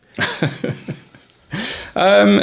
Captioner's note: laughing